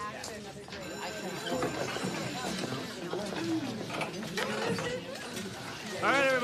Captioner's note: bell rings